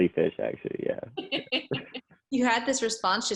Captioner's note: laughing